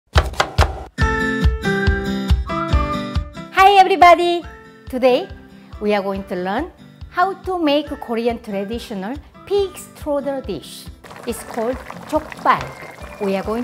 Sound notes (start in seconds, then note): 0.1 chopping; 1.3 perky music